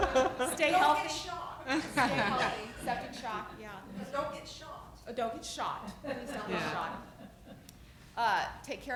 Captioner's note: laughter; laughter